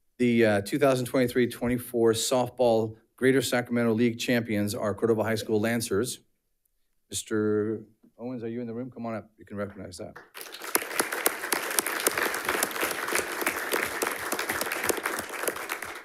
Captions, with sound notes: The 2023-24 softball Greater Sacramento League Champions are Cordova High School Lancers. Mr. Owens, are you in the room? Come on up, you can recognize that. (audience applauding)